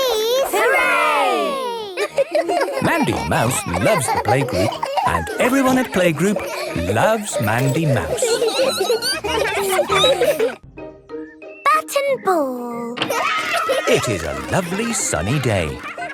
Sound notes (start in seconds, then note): 8.3 laughter; 8.3 squeaking; 13.1 cheering